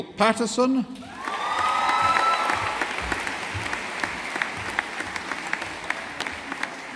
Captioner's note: audience applauding